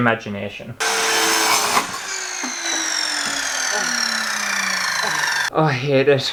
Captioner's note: loud Scary Power Saw Sounds